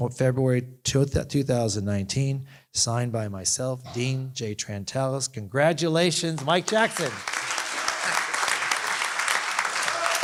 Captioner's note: applause